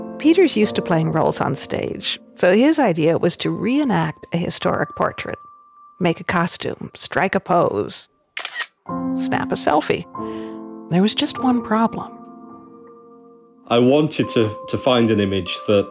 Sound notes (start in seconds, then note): 8.3 camera clicks